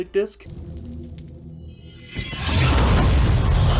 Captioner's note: shimmering noises; otherworldly whispers